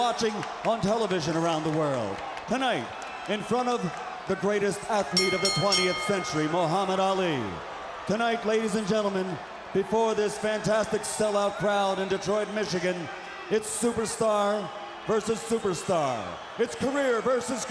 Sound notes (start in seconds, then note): 5.1 bell ringing